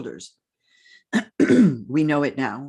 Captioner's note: clears throat